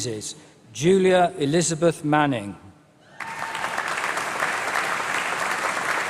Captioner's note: applause